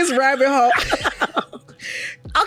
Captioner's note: laughs